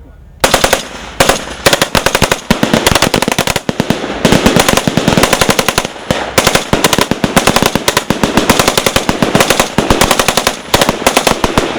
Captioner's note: gun fire